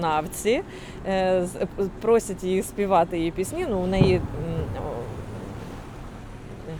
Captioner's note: explosion